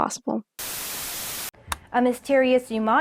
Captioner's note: television static